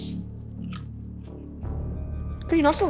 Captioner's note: popcorn crunches